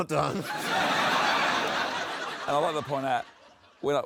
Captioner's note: laughter